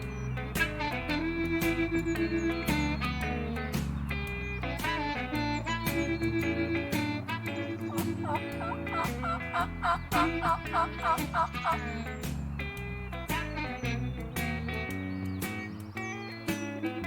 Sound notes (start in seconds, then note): 7.2 turkey calls; 7.8 blues music